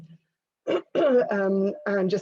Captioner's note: clears throat